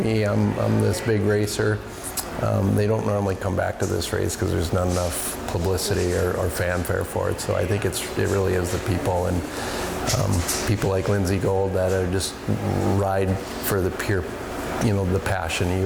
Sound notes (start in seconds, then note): 2.5 atmosphere humming